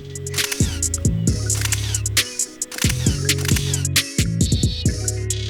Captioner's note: camera shutters go off; light music